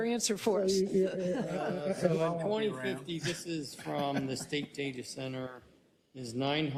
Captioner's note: laugh